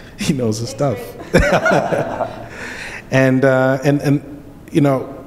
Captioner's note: laughter